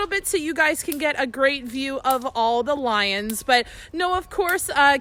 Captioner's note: none